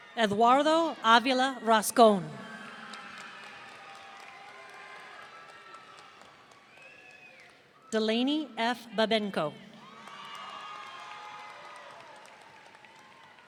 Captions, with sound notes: Eduardo Avila Rascon. (audience cheering) Delaney F. Babenco. (audience cheering)